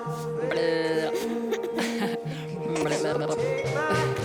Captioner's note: Alex babbling, both laughing